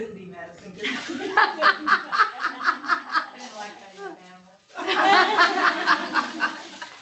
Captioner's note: laughter